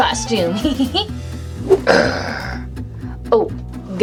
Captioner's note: growling; laughs